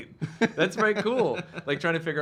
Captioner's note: laughing